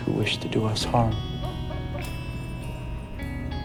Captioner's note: dog barking